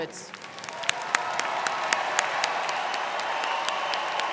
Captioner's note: crowd clapping